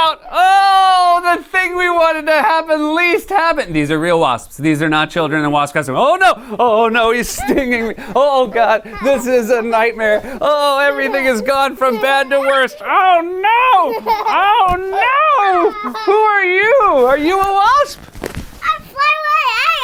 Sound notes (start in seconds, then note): 6.3 laughing; 13.6 laughter